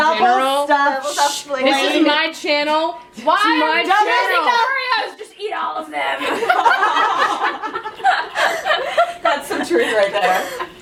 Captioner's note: laughter